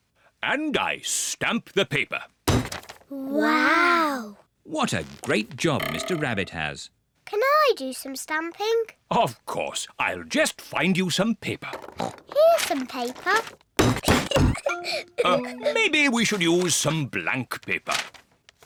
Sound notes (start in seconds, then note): 12.0 oinks; 14.2 giggles